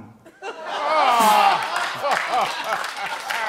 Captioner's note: laughs; groans; laughter